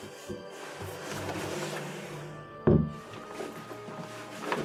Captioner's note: closing cellar door